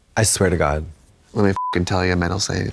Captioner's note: beep